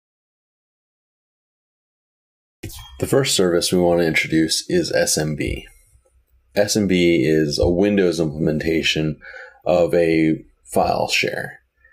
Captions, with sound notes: [ELECTRONIC NOISES] The first service we want to introduce is SMB.